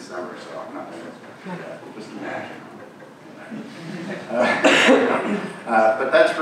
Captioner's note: audience laughing